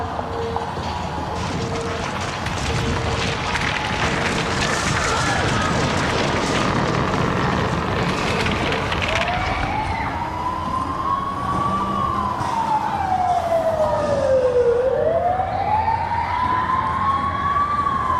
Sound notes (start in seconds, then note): 2.8 alarm beeping; 5.1 fire roaring; 9.7 fire engine sirens ringing